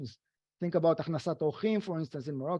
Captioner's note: speaking foreign language